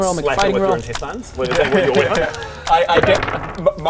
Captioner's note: squelch